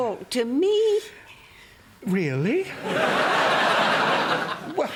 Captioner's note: tearfully